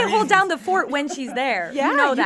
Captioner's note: laughs